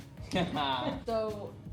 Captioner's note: laughs